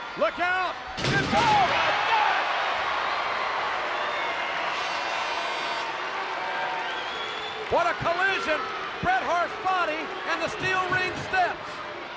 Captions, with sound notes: Look out! Oh my gosh! (crowd cheering) (horn blowing) (crowd cheering) What a collision. Bret Hart's body and the steel ring steps.